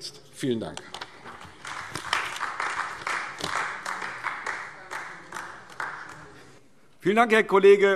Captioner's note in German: Beifall AfD